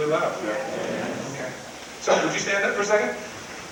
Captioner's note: crowd mumbles in agreement